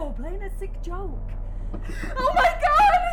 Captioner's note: knocking on window